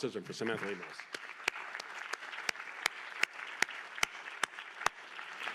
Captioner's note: applause